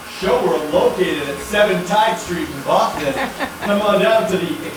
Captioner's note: laughing